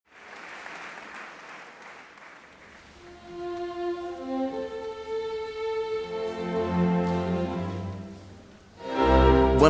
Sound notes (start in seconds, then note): 0.0 audience applauding; 2.7 slow orchestral music